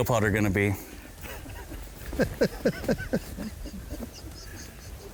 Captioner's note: laughs